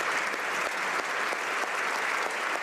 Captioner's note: applause